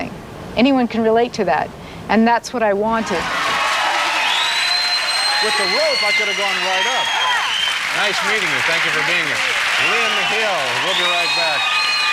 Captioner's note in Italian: Applauso